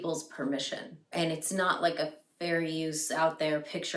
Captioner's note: none